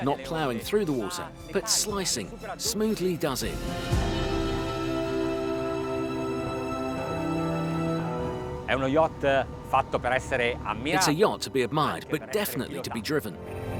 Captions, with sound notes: Not plowing through the water, but slicing smoothly does it. (slow, inspirational music) (speaking foreign language) It's a yacht to be admired but definitely to be driven.